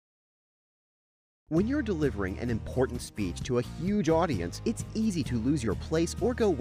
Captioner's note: voiceover